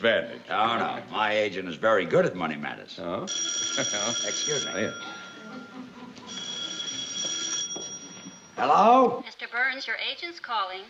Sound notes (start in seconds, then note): 3.2 phone ringing